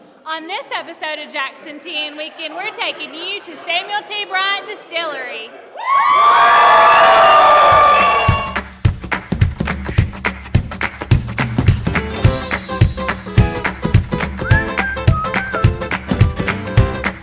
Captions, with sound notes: - On this episode of Jackson, TN Weekend, we're taking you to Samuel T. Bryant Distillery. (cheering) (upbeat music)